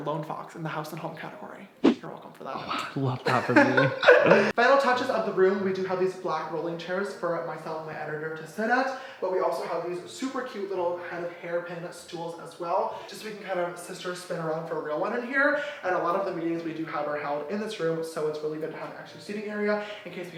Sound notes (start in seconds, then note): 3.1 laughing